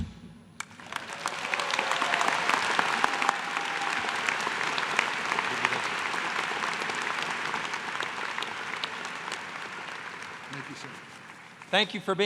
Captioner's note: applause